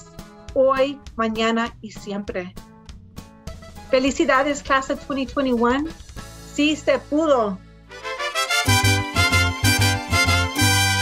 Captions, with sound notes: Felicidades, class of 2021! (speaks in foreign language) (cheerful music)